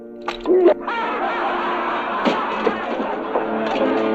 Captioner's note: prisoners laughing